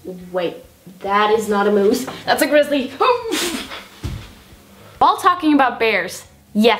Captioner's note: inhuman noise